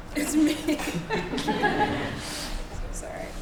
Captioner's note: laughter